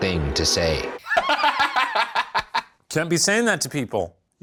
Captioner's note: laughs